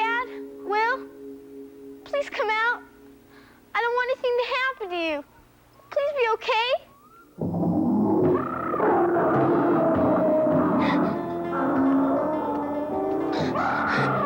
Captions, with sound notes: - Dad, Will, please come out. I don't want anything to happen to you. Please be okay. (dinosaurs roaring) (Holly gasping)